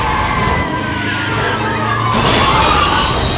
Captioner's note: tires squealing; glass shattering